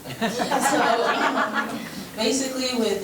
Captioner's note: members laughing